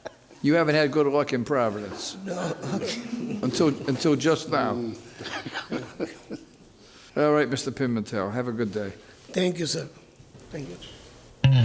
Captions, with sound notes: You haven't had good luck in Providence. No. (laughs) Until just now. (all laugh) All right Mr Pimentel, have a good day. Thank you, sir, thank you.